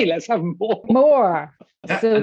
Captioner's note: laughs